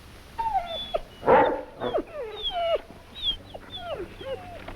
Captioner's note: dogs barking